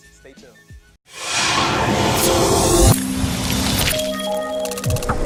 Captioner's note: metallic whooshing